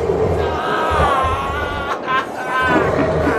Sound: screaming in pain; evil laughter

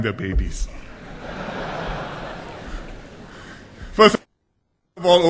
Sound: laughter

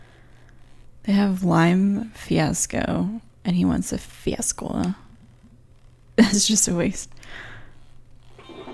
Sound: laughs

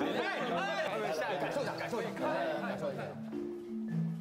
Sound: dragging

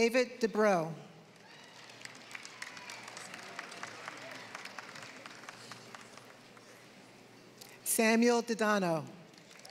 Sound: applause; applause

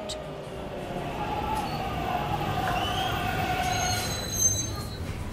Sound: subway stopping

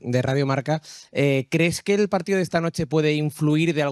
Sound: speaking spanish

